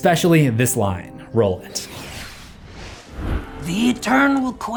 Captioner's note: text swooshes